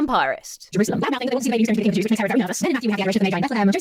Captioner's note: voice continues to play rapidly